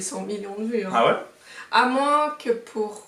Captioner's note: surprised